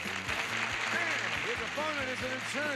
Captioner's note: audience applauding